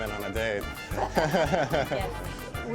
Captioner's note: laughs